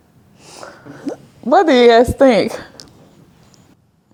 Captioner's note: chuckling